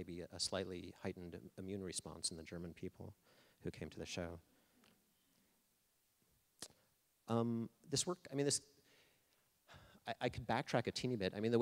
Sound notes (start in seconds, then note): none